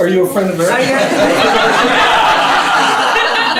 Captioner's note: laughter